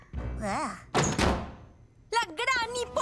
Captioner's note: door opens